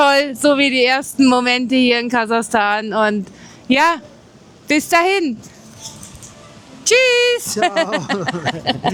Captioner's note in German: gelächter